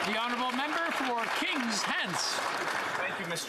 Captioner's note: some Applause